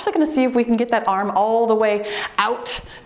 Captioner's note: timer beeps